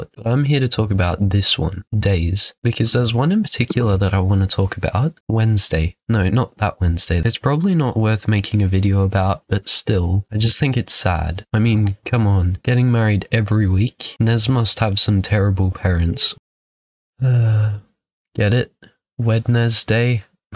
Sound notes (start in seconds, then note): 17.2 sigh